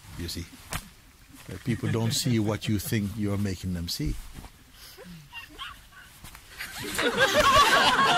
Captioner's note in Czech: smích